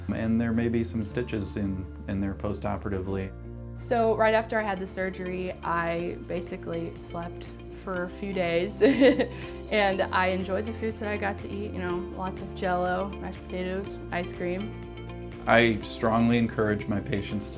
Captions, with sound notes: And there may be some stitches in there post-operatively. - So, right after I had the surgery, I basically slept for a few days. (laughs) And I enjoyed the foods that I got to eat, you know, lots of jello, mashed potatoes, ice cream. - I strongly encourage my patients